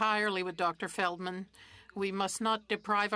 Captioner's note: speaking French